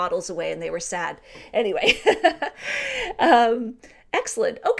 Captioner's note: laughing